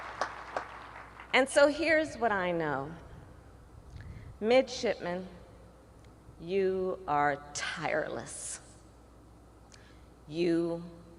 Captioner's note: applause